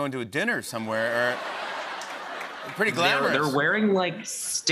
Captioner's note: laughter